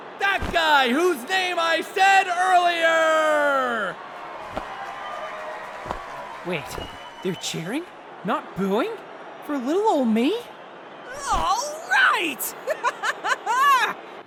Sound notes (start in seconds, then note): 3.4 crowd applause